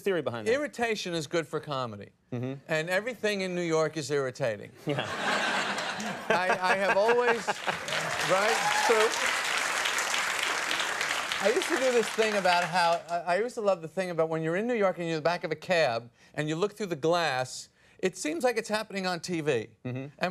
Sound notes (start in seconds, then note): 4.9 audience laughs; 6.6 audience breaks into applause